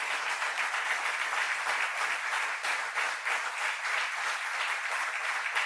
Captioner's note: applause